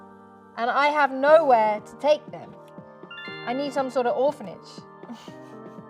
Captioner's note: notification sound